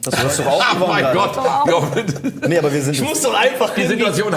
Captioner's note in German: lachend